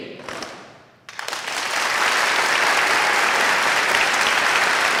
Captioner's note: applauding